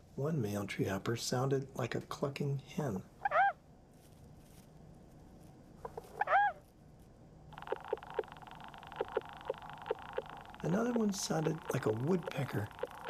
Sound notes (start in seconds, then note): 5.6 clucks; 7.5 treehopper rattling